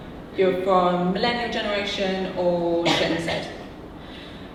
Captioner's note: audience member coughing